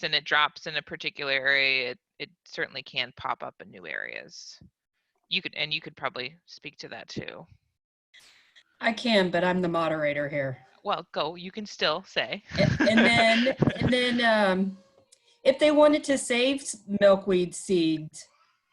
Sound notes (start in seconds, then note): 12.4 laughter